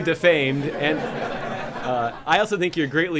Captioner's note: laughter